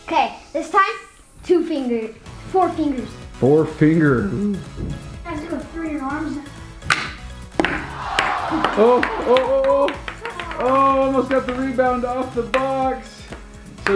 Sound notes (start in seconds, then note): 7.5 ball clacks; 7.7 disappointed crowd